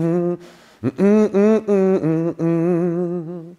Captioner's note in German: melodisch